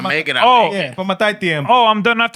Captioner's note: non-english Speech